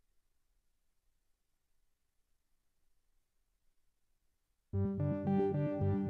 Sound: silence

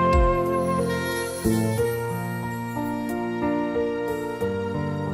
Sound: soft chimes

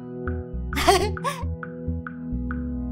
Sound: laughs

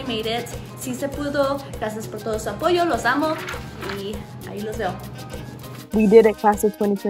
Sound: speaks in foreign language

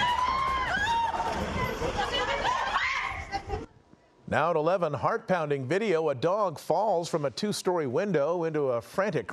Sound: screaming

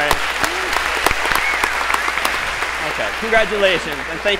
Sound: applause

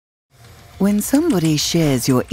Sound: voiceover

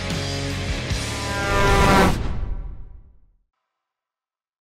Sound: horn honking

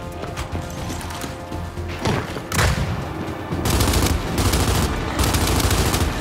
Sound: gunfire

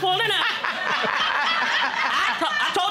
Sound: all laughing

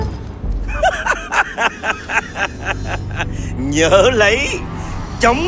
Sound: maniacal laugh

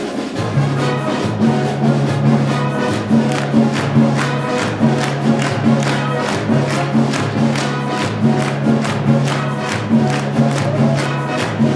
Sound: music swelling; upbeat Latin music; clapping

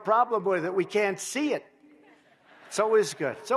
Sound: laughter

